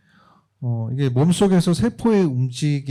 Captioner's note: speaking korean